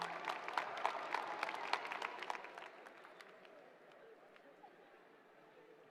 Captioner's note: applause